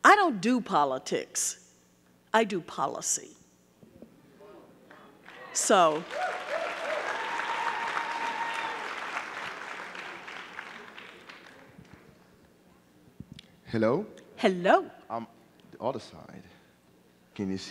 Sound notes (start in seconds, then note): 5.2 audience clapping